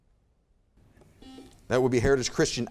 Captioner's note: buzzer beeps